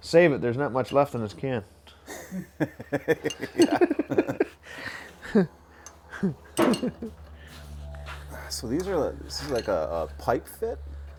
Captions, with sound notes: Save it. There's not much left in this can. (guys laugh) - So this is like a pipe fit.